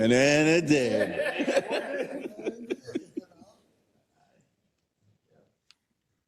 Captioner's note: laugh